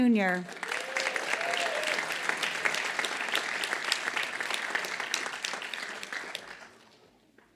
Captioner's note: applause